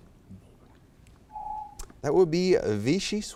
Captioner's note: timer beeps